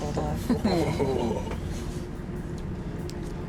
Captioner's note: laughter